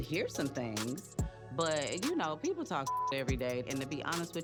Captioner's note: beep